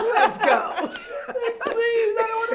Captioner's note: laughing